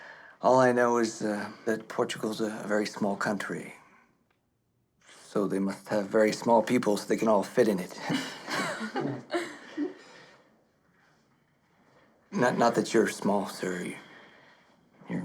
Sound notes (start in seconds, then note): 7.9 laughing